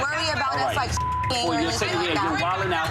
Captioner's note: beep